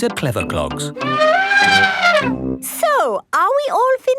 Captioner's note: trumpeting